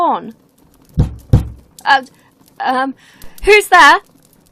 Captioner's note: knock on the door